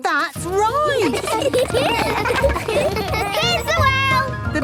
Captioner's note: laughter